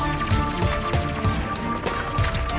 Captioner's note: fluttering